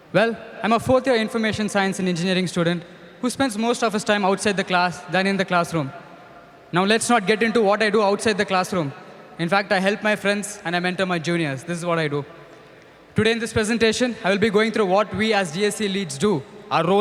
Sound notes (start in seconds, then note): none